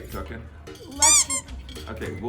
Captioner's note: toy squeaking